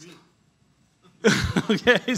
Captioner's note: laughs